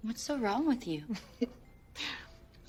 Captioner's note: laughs